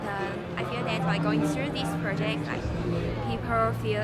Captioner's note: Chinese accent